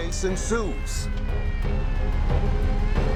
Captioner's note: police siren wailing